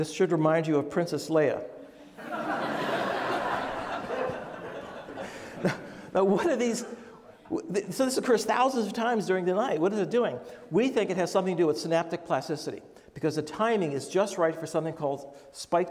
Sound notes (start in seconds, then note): 2.1 audience laughs